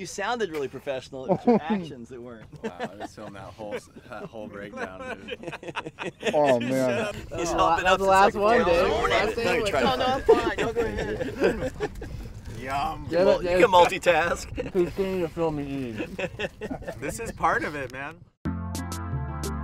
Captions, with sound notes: You sounded really professional. It was your actions that weren't. (indistinct chatter and laughing) - Yum. - Damn it, man. - You can multitask. - He's standing here filming and eating. (laughter) - This is part of it, man.